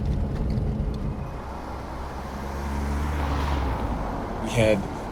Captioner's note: car passing